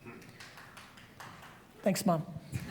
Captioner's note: light audience applause